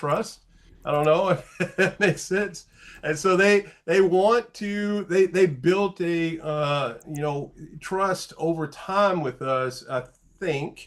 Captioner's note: light laugh